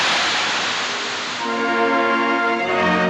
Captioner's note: steam Hissing